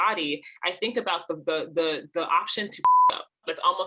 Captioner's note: beep